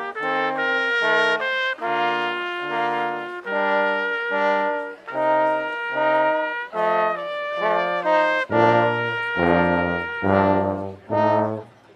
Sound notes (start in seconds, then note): none